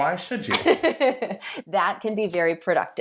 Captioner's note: laughing